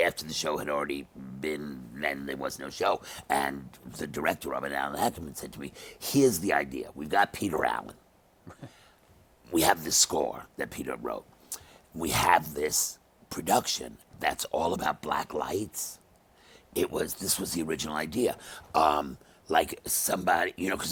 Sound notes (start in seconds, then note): 8.4 chuckles